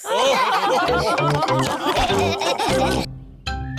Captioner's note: laughter